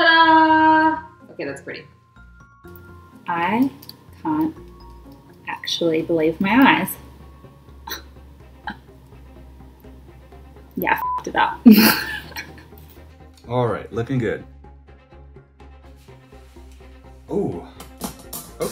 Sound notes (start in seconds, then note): 8.0 gasps; 11.6 laughs